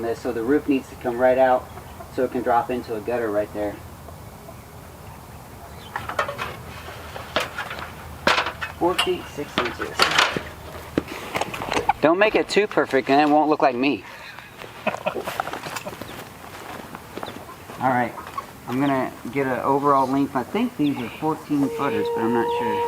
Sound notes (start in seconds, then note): 14.2 chuckles